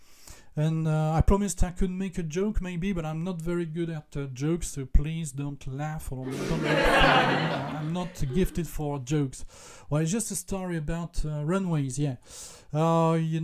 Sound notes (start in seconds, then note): 6.2 laughs